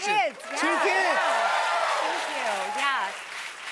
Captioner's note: cheers and applause